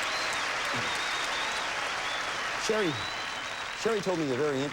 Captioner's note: audience applauding